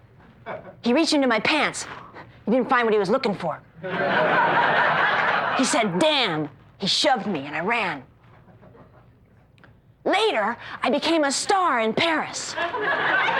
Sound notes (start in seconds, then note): 3.8 laughter